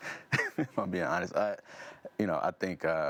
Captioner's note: laughs